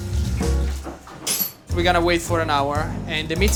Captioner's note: cover clatters